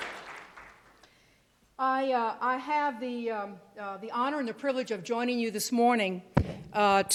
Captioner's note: cheers and applause